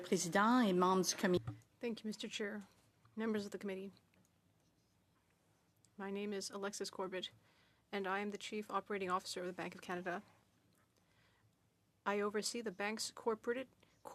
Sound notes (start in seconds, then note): 3.6 speaking French